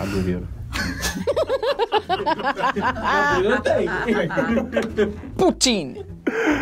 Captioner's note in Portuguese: risadas